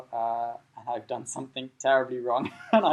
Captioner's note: laughing